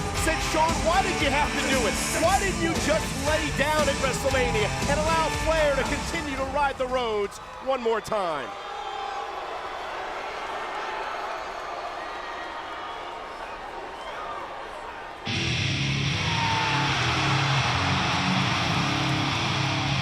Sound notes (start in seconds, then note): 9.7 crowd boos; 16.7 upbeat metal music